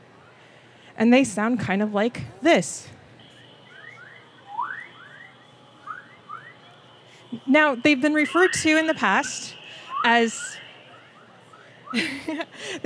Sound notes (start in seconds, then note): 3.2 eerie tweeting and whistling sounds; 11.9 laughs